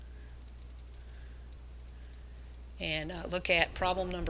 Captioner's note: mouse clicking